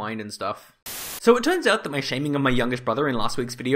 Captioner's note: Static